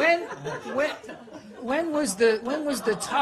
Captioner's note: laughter